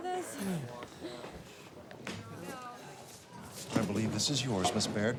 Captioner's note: students murmuring